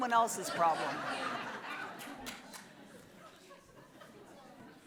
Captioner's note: audience laughs